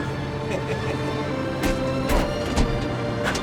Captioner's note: chuckling; dramatic orchestral music